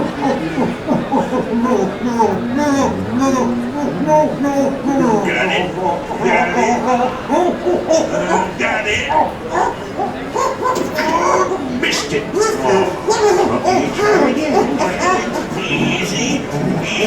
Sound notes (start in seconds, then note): 7.4 patient making muffled pained groans; 10.4 patient groaning